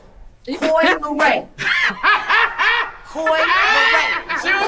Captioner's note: man laughing